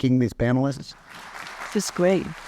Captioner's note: applause